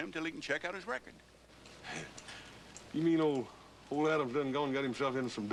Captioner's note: chuckles